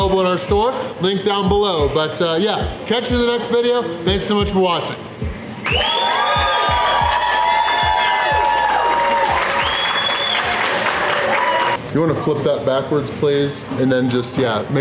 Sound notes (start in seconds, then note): 5.6 crowd cheering